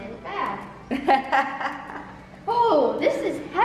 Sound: laughs

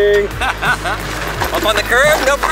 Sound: laughs

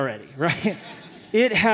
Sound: laughter

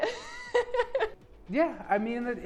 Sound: laughing

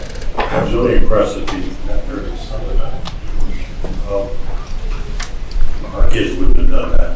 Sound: speaks faintly

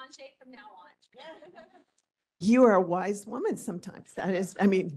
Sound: laughing

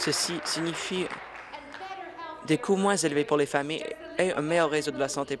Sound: applause

